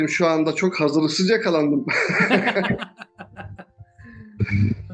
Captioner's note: laugh